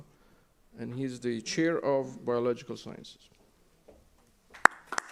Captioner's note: applause